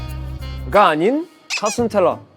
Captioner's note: heh